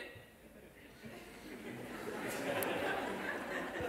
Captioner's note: laughter